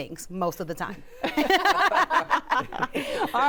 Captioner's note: laughter